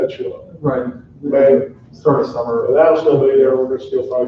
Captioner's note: overlapping chatter